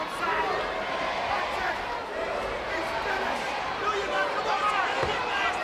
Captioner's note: crowd cheering